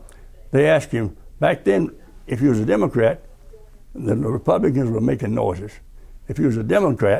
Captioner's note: and the Republicans were making noises